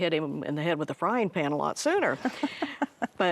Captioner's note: chuckling